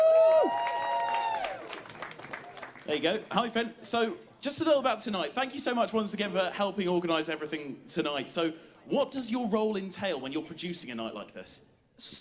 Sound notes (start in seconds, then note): 2.3 cheers